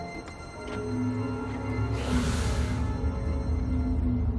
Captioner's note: hissing